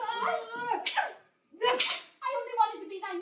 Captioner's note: metal clanging